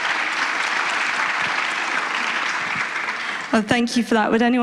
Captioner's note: applause